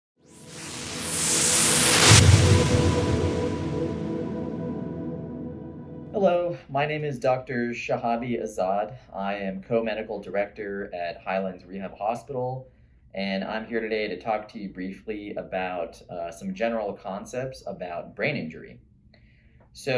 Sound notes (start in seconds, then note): 0.4 whooshing